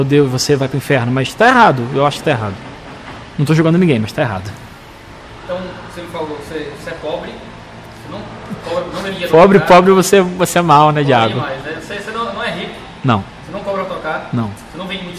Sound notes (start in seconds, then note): 8.3 laughs